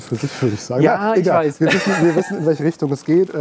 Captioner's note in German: lachend